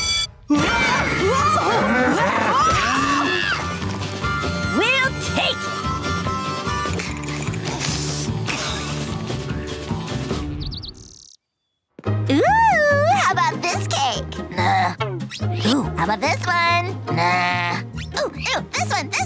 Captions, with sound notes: Whoa! Whoa! [Lola screaming] We'll take him. Ooh, how about this cake? Nah. Ooh, how about this one? Nah. Ooh, ooh, this one, this one.